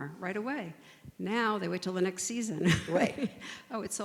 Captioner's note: laughs